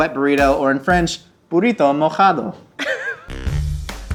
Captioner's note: speaking in foreign language; upbeat music